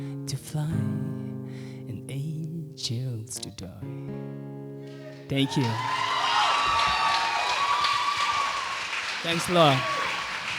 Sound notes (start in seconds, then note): 5.0 applause